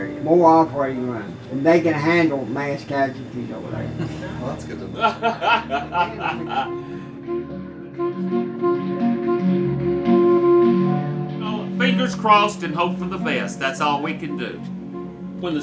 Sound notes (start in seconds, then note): 4.7 laughing; 6.9 low woodwind music